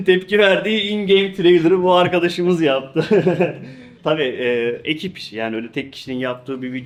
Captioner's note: laughs